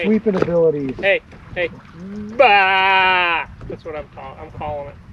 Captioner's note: bleating sheep